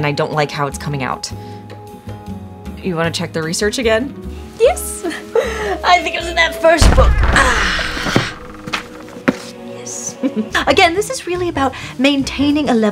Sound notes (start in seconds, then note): 5.0 chuckles; 6.8 book slams; 8.6 mystical music